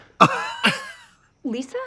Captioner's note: Trixie and Katya laugh